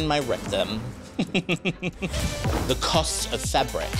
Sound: chuckles

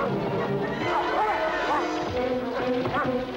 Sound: Shep growling; intense music; Shep snarling; Lin groaning; intense music

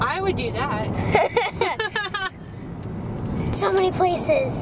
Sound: laughing

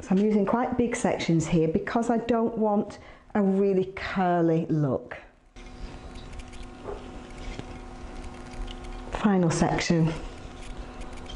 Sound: ASMR sounds

